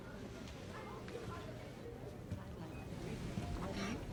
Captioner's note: patrons chatter